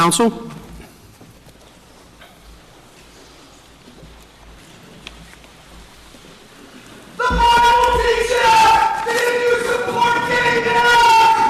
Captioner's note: applause